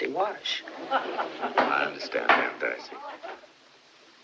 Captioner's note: spectators Laughing